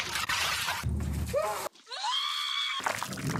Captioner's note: Lebron screams; Oprah screams